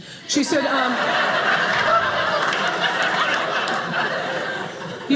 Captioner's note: audience laughing